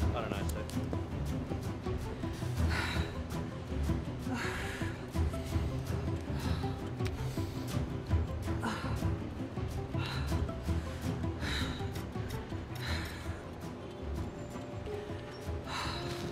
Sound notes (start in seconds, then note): 4.2 breathing deeply